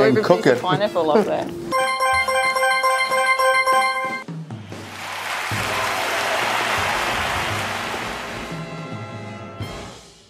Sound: score counter pings, followed by applause

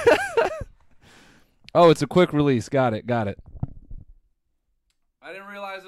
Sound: laughs

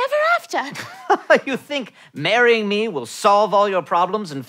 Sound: chuckles

